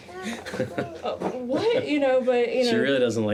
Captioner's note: laughs